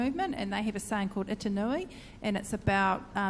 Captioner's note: speaks in foreign language